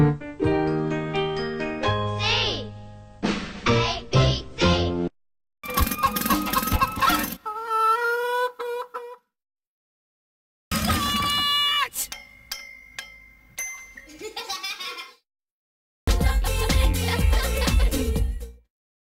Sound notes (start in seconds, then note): 5.6 pecking sounds; 7.4 chicken crowing; 14.0 kids laughing